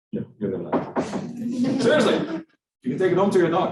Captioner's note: students laughing